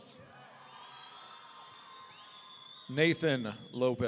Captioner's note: audience cheering